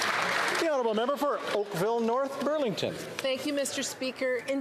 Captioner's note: some Applause